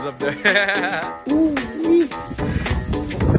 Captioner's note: laughing; bright upbeat music